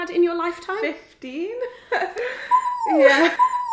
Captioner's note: laughs